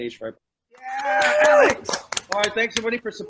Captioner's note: cheering